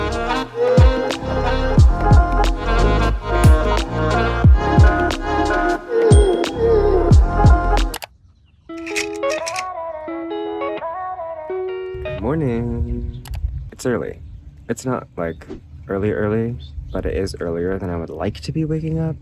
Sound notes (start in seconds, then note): 8.8 music change; 8.8 projector slide change